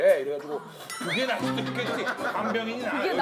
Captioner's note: cracking up